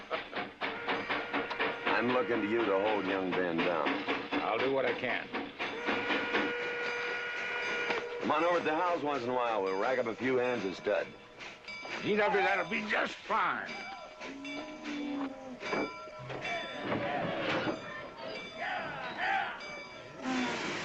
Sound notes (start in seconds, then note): 0.3 laughing; 14.4 bell clanging